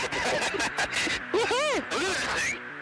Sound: pilots laughing

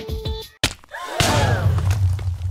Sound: crowd Gasp

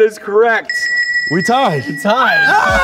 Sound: bell ringing

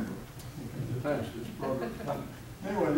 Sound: audience laughing

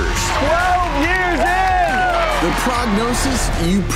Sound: crowd screams

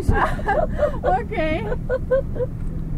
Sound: laughs

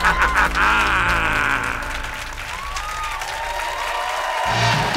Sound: laughs; applause

